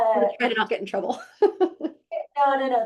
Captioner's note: laughing